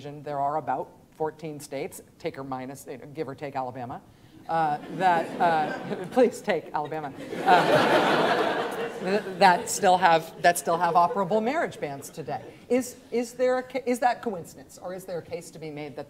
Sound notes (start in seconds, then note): 4.8 students laughing